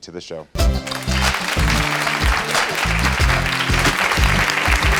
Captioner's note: audience applauds